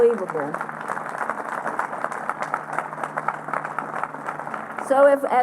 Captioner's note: applause